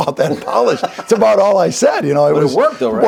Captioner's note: laughs